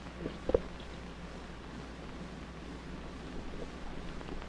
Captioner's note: none